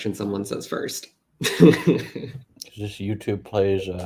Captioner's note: laughs